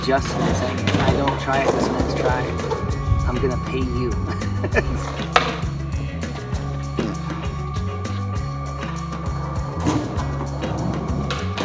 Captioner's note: laughs